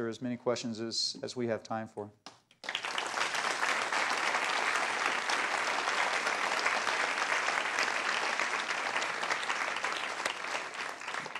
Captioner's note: applause